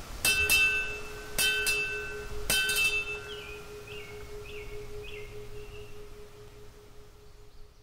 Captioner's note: birds chirping, bell rings